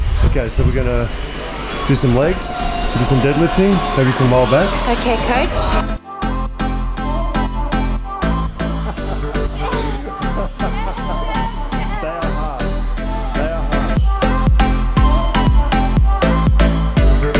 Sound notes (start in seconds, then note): 8.6 both laughing; 14.3 lifting pop music